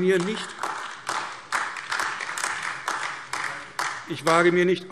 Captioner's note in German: Beifall AfD